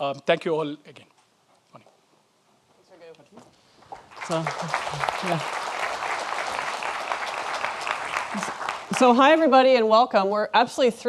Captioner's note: audience applauds